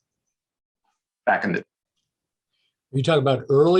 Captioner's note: audio cuts out